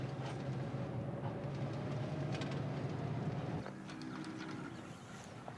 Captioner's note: birds chirping, cows mooing